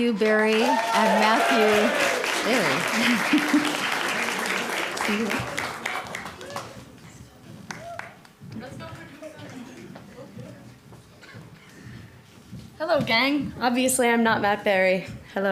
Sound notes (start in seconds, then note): 0.0 applause